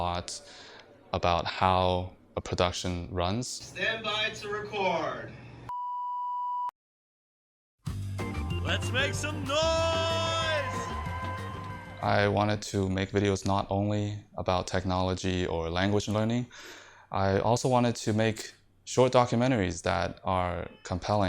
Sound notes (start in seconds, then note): 5.7 tone sounds